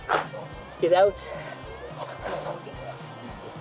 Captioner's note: mumbling like a loser